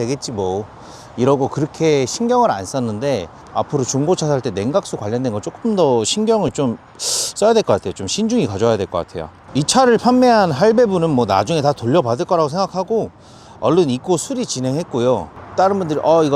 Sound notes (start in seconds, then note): 7.0 scoff